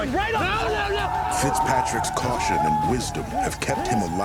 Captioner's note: war cries